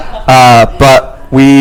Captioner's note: laughs